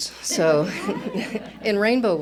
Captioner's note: laughter